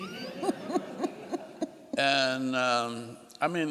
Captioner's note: laughing